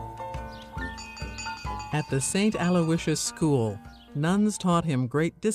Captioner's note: bell ringing